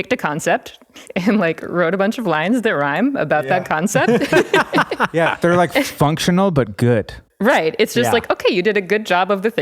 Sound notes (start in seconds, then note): 3.6 all laugh